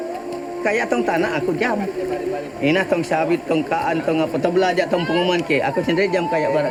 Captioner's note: speaking in foreign language